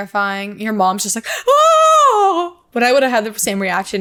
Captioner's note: gasps